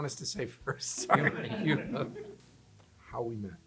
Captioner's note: laughter